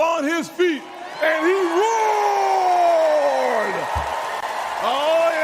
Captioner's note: crowd cheers